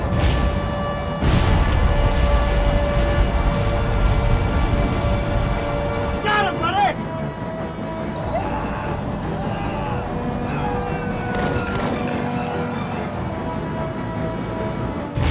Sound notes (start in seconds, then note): 0.1 weapon blasts; 1.0 flames roaring; 1.1 loud boom; 8.1 soldiers screaming; 11.3 intense, dramatic music; 11.3 tank machine gun booming